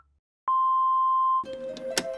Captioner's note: phone ringing; machine beeps; slow tense music